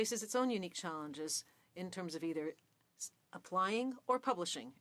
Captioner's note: speaking French